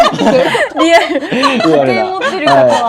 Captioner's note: laughs